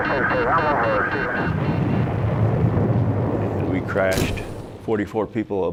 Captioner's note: aircraft exploding